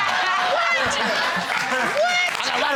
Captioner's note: laughter